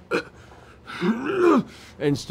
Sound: grunts

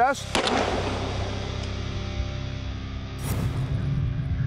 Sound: gun shots; dramatic transition noises

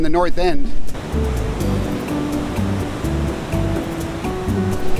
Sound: waves crashing

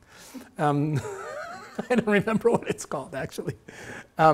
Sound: laughing

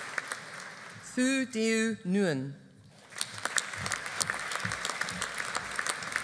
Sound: audience applauding

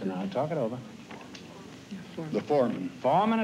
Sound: whispers

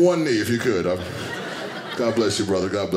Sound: audience laughing

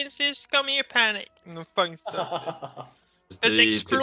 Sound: haha

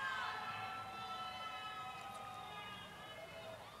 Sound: cheers and applause

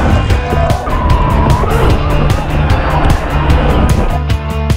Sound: tires squealing

